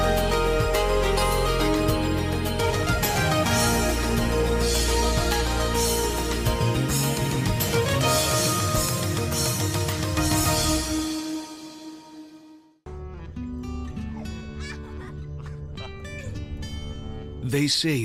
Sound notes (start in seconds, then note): 13.9 children laugh; 13.9 chuckles